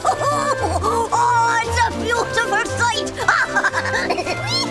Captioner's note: laughing